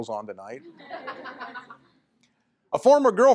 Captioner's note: laughter